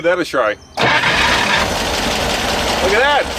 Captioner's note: engine revving